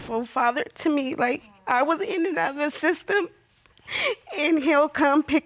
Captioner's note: sniffles